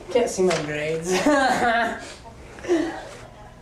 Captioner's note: laughs